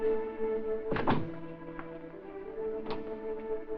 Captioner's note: knock at door